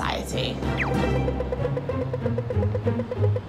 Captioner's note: crossing alarm blips